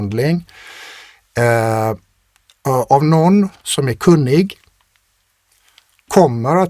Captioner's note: scoffs